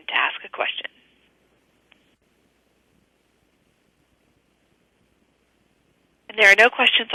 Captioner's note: pause